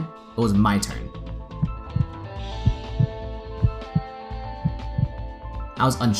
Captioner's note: heart beats